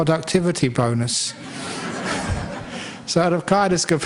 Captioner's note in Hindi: हँसी